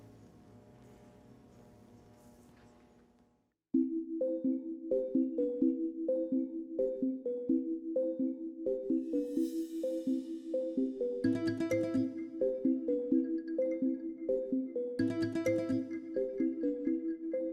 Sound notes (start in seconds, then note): 0.0 machine humming; 3.9 bright music; 14.0 bright music continues